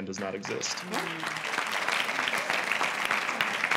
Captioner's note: applause